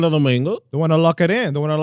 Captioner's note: speaking In Foreign Language